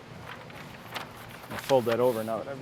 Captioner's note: rustling